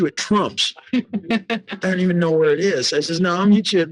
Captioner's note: woman laughing